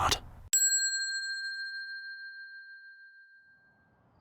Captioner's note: bell dings